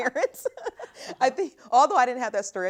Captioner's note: laughter